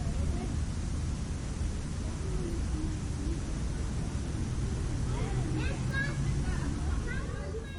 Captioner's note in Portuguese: sons de pessoas no parque